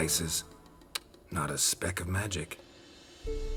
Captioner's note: tsk